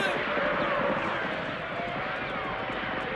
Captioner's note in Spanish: disparos y gritos de indios